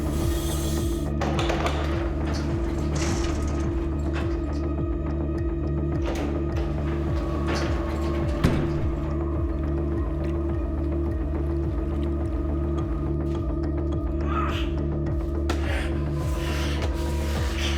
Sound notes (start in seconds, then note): 2.0 metallic doors